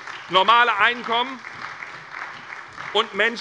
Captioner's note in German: Beifall bei der SPD